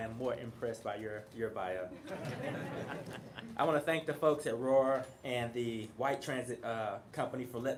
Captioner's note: laughter